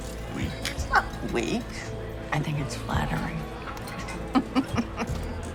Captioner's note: laughs